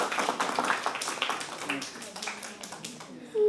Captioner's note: applause